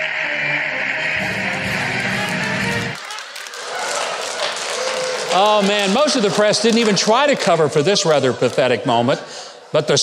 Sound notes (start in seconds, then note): 0.0 crowd applauding; 0.0 band playing; 3.5 audience applauding